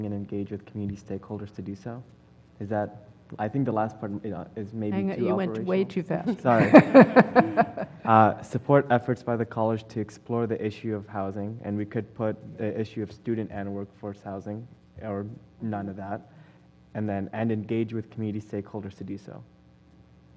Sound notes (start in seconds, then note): 6.2 laugh